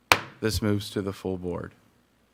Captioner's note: gavel banging